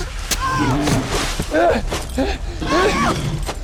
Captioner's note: panting